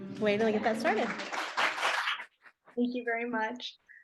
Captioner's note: audience applauding